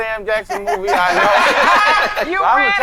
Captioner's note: all laughing